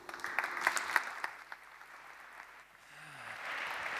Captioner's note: applause